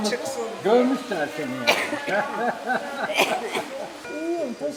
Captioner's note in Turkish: Gülüyor